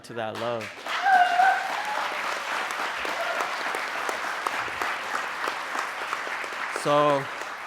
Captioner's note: applause